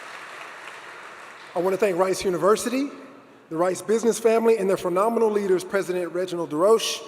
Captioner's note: applause